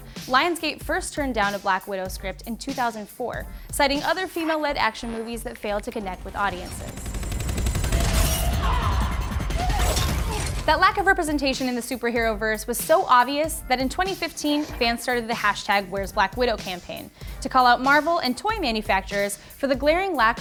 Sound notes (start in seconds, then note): 6.9 fast-paced whirring; 8.9 grunting